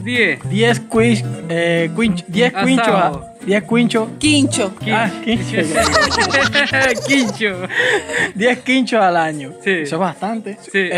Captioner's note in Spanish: Risas